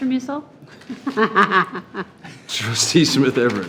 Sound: laughing

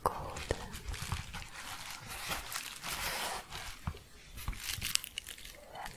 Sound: crinkling

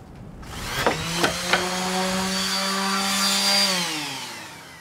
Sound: sander buzzing

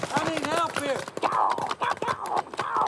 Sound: making bullet noises

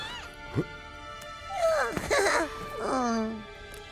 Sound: laughing

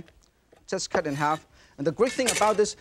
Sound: knife swishes; knife clinks

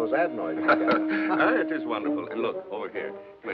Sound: laughing

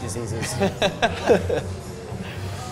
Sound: both laugh

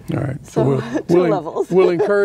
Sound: laughs

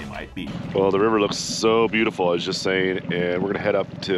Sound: boat engine idling

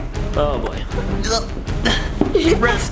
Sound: grunts

